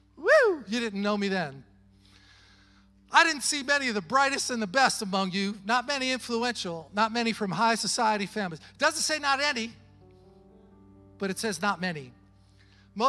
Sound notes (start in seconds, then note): none